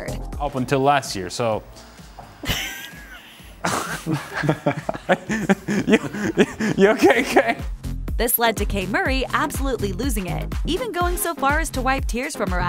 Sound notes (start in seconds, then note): 2.1 laughing ensues; 2.1 slight fart noise